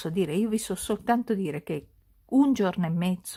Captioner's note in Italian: none